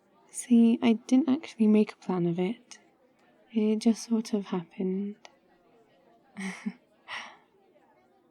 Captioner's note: laughs